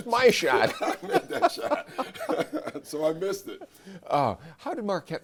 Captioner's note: laughs